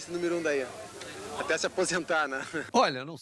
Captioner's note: laughing